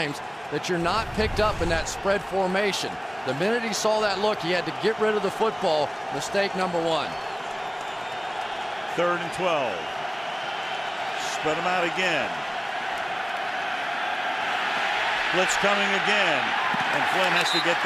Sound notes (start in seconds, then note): 15.1 cheering